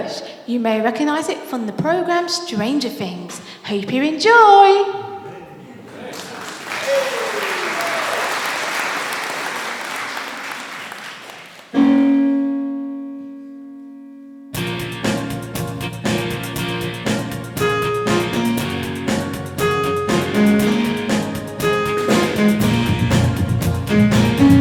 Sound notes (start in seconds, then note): 5.9 applause